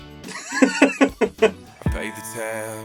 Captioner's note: laughs